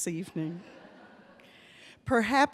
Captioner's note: audience laughs